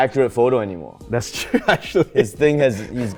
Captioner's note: laughs